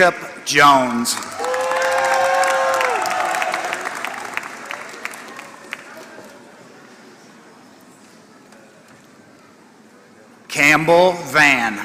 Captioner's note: applause